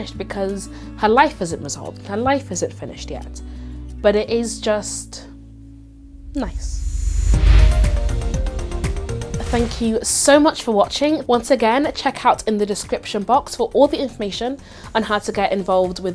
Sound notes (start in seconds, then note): 6.0 air whooshing; 7.4 upbeat music